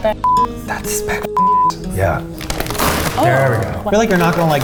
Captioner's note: beep